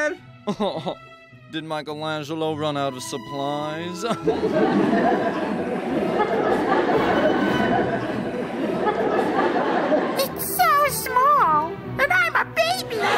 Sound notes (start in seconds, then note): 0.5 snickering; 4.0 light Laughter; 12.9 loud Laughter